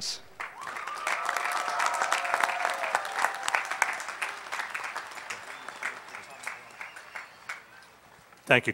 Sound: applause

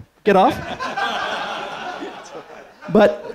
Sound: laughter

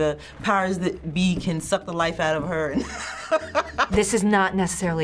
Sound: laughs

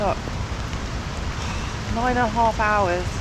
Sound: sigh

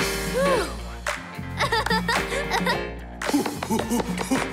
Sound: giggling

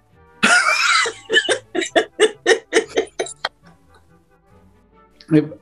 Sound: laughing

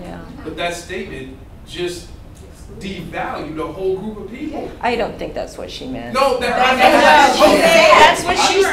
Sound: eruption of outbursts

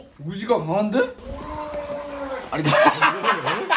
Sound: gargle

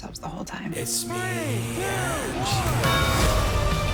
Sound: bell tolls; indie rock continues

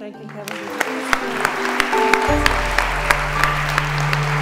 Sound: applause

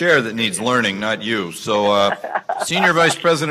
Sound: laughs

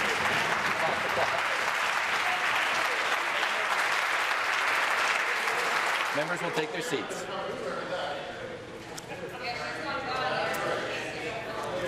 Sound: applause

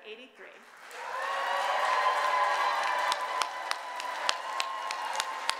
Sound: audience cheers and applause

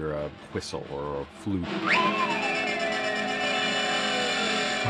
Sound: whistle tooting; horn honks

